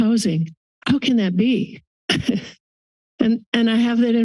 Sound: laughs

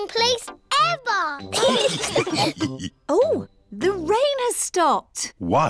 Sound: laughter

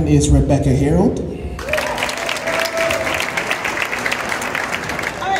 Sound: cheers and Applause

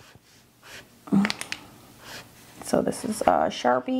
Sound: pen clattering

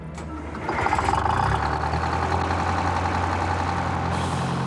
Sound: engine revving

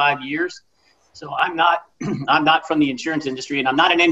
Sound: clears throat

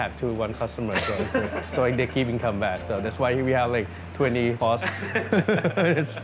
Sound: laughing

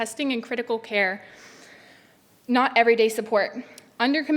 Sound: breathes deeply

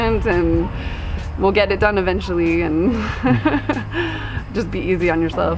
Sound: chuckles

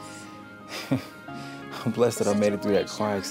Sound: laughs

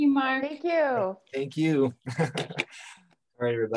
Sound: chuckles

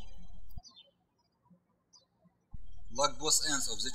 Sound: birds chirping

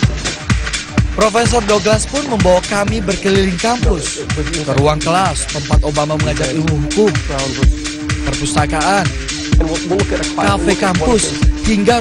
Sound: non-english speech

